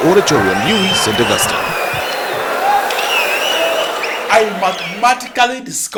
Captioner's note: wild applause and cheering for 22 seconds